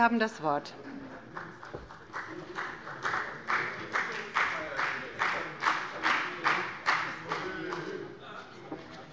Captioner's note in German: Beifall bei der FDP